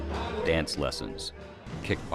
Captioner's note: voiceover